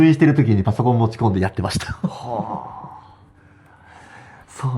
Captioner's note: laughs